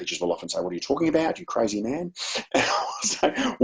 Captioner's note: chuckles